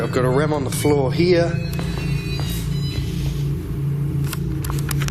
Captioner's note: beeping quickly